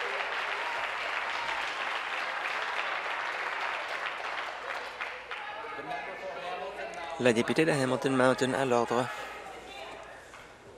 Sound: applause

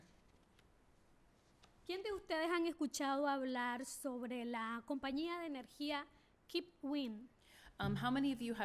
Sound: speaking spanish

